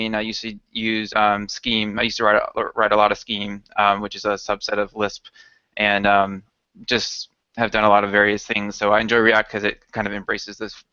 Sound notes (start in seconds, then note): none